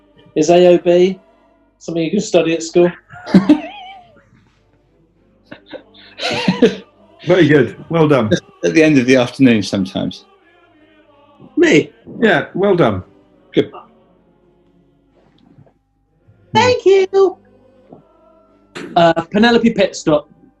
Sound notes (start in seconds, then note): 2.8 giggling; 5.4 laughing